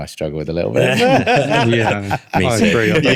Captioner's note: laughing